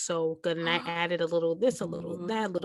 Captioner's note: happy noises